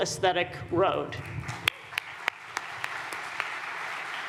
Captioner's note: audience applauding